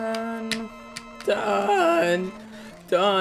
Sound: humming music; voice crack

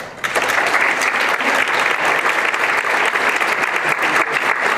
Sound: applause

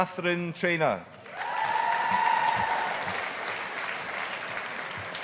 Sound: audience applauding

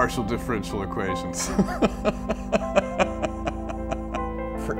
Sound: laughter

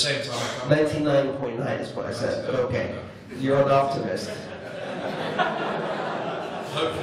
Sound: laughter

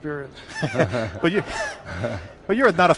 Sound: laughs

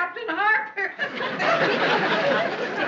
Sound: laughing

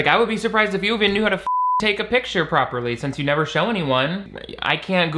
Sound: beep

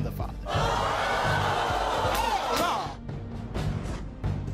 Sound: audience yells

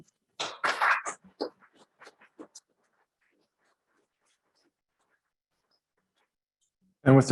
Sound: scattered applause

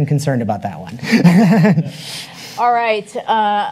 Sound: laughs

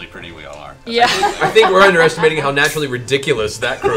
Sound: laughing

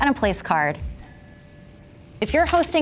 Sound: place card ringing

